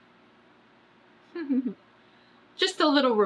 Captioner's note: laughs